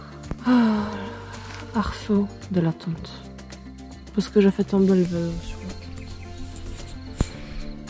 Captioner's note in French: soupir